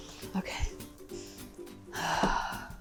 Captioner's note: sighs